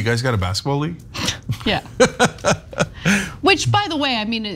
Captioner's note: laugh